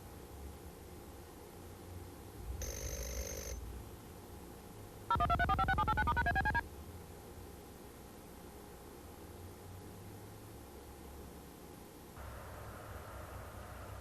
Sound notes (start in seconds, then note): 2.6 phone rings; 5.1 beeping